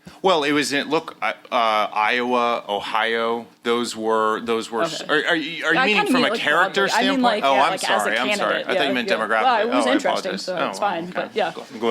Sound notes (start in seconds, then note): none